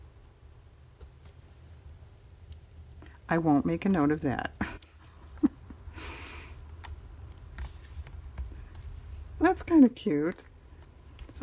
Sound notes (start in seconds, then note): 4.6 laughs